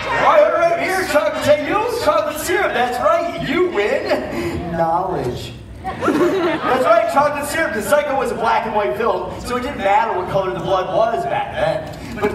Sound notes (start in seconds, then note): 5.8 audience laughs